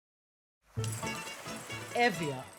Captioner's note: crashing waves